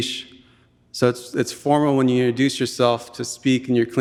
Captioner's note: speaking in Tlingit language